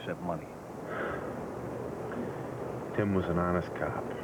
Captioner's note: sighs